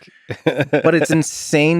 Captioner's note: Lex laughs